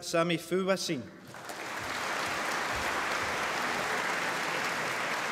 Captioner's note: applause